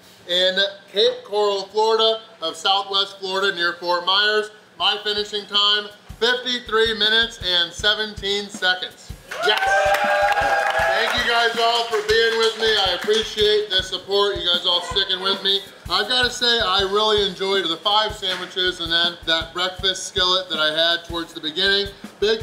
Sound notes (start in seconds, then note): 9.2 crowd cheers